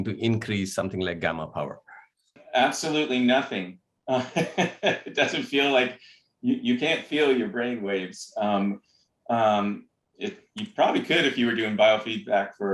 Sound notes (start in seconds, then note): 4.1 laughter